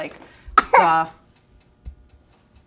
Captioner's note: coughs